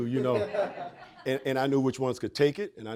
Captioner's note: audience laughing